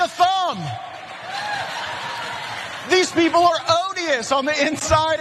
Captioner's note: applause